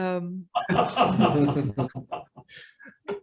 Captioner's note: laughter